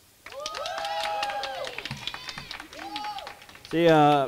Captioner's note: clapping and cheering